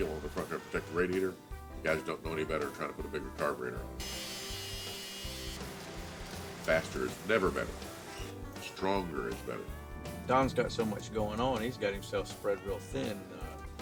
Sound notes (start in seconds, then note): 3.9 power tool buzzing